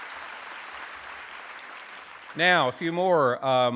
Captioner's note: applause